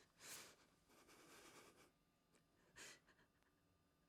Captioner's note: Carol panting